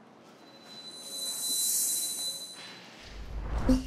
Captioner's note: whooshes